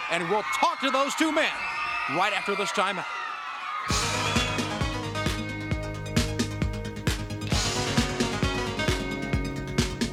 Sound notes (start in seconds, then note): 3.8 upbeat pop music; 3.9 crowd cheering